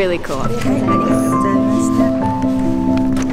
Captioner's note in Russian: благодарит на японском